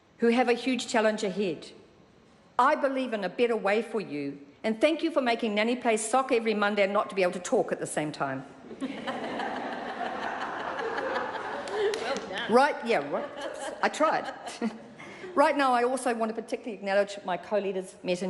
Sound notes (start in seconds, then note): 8.6 laughter